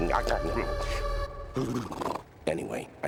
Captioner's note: shuddering